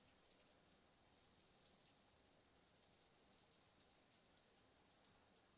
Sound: water running in shower

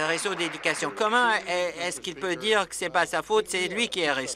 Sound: applause

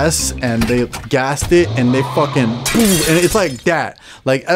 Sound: glass crashing

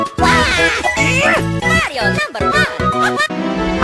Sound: groan

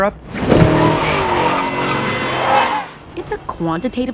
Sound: engine revving

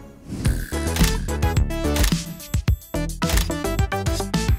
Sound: camera clicking

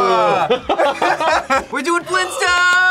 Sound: group laughs

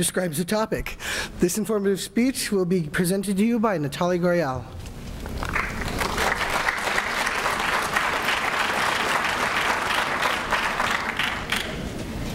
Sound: applause

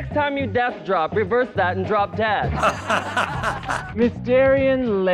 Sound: laughing

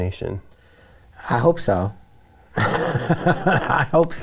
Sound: laughs

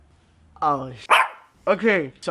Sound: bark

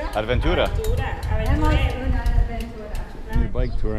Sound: speaking Spanish

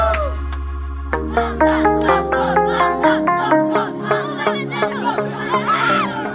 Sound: Children screaming STHLM Panda! STHLM Panda!

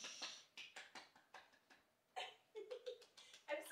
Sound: lady applauding

